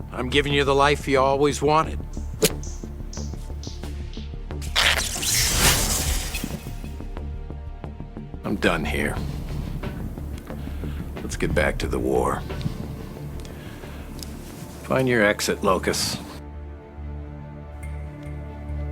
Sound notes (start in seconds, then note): 2.2 knife clicks; 4.6 energy crackles